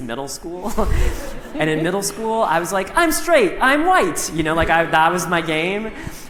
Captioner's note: laughter